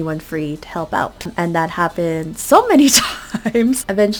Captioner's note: laugh